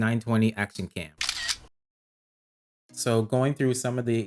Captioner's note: camera clicks